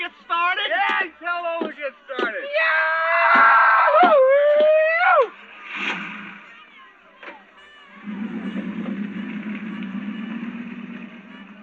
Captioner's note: screaming